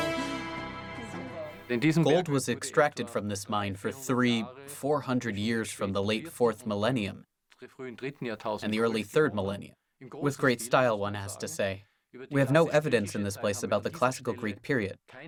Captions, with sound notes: [in German] Gold was extracted from this mine for 3-- 400 years, from the late fourth millennium and the early third millennium. With great style, one has to say. We have no evidence in this place about the classical Greek period,